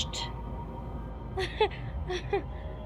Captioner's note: awkward laugh